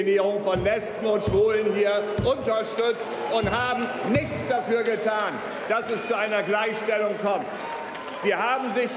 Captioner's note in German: Beifall bei Abgeordneten der SPD – Buhrufe und Pfiffe bei der CDU/CSU